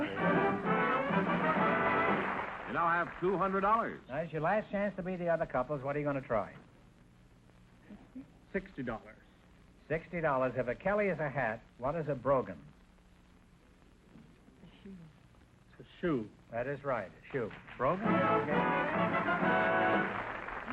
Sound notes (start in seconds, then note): 0.0 triumphant music & applause; 7.5 whispering; 13.9 whispering; 17.7 triumphant music & applause